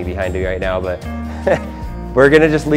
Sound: laughing

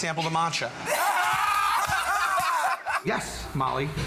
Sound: laughter

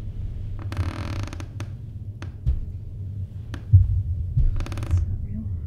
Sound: floor creak, footsteps slowly approaching

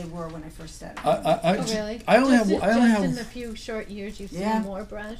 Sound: voiceover

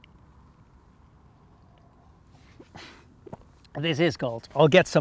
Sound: sips coffee

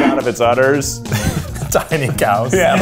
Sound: laughs

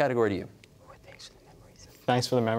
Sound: whispering

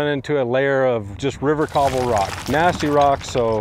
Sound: rocks banging

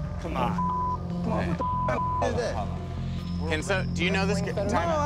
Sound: beeping

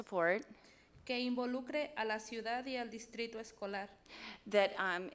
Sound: speaks foreign language

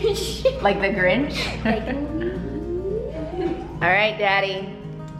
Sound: chuckles

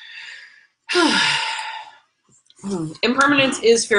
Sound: sighing

